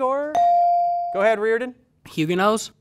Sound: ding

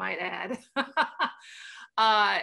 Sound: laughter

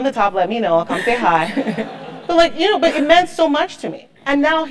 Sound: laugh

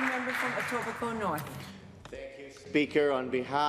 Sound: some applause

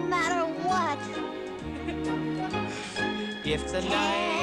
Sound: giggles

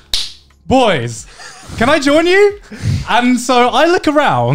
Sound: claps; laughing

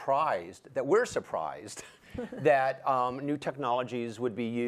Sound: panelists laugh

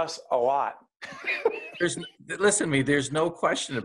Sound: laughing

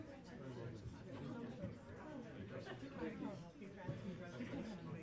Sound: crowd chattering

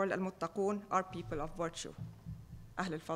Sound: speaking foreign language

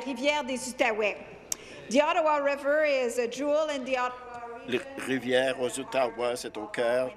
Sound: speaking in French

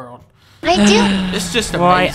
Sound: Dunkey sighs

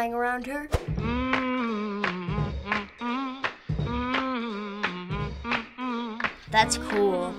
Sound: humming

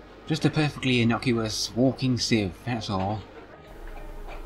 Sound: none

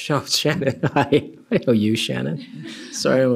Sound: laughs

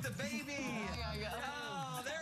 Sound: cheers and applause

